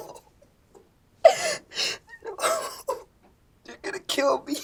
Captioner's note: crying